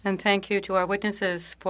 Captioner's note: speaking French